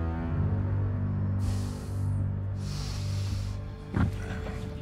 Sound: sigh

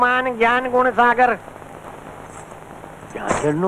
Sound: anklets tinkling

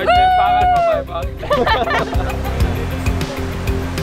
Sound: cheering

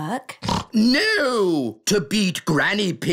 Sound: snorts

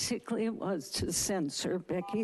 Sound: beeping

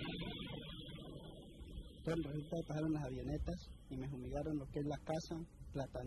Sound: non-English narration

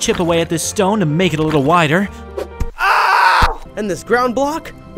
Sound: yells

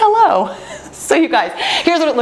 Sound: laughs

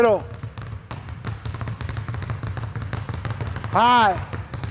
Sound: balls continue thudding

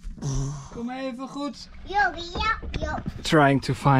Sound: speaks Dutch

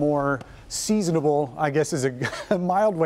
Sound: laughter

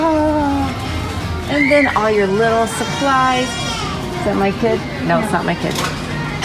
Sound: kid cries

